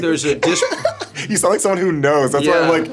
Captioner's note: laughing